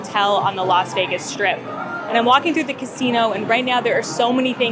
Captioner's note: noisy casino - clanging and unintelligible voices